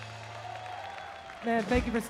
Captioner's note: applause